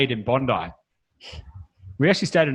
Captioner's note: laughs